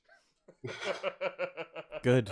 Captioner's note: laughter